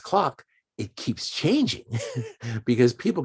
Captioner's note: chuckles